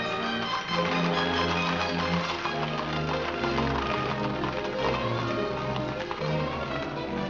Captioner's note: upbeat music; hooves trotting; upbeat music